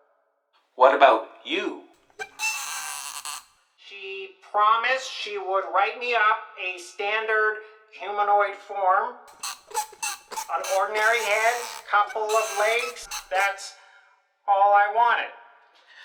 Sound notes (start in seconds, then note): none